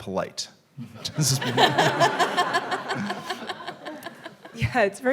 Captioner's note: all laughing